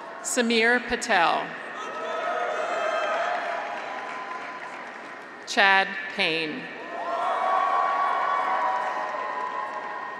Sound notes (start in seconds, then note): 1.6 graduates cheer; 2.0 audience applauds; 6.8 graduates cheer